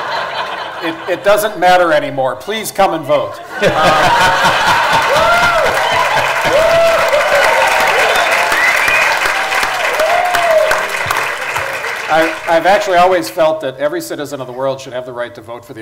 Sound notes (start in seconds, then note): 0.0 laughter; 7.1 cheers/Laughter/Applause